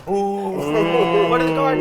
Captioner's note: players oohing